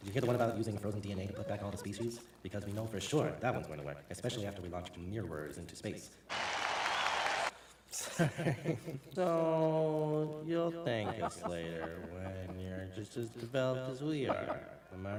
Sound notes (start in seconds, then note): 6.3 applause; 10.8 laughter